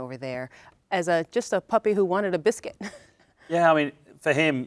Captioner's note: chuckles